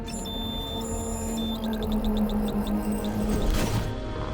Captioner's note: electronics beeping